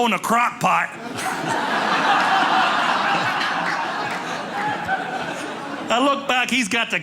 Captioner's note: audience laughing